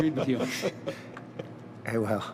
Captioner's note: laughter